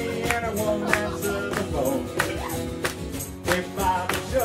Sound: audience clapping in-time

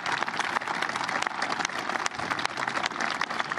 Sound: cheers and applause

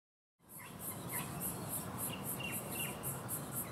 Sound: birds chirping

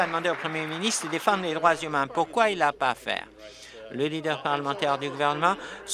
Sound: applause

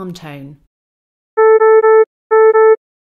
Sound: beeping

